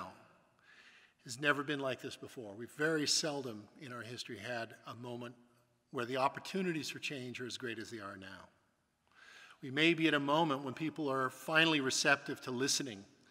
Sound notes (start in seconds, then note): none